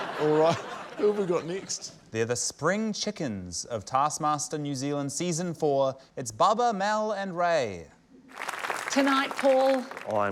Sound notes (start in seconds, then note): 0.1 chuckles; 8.3 applause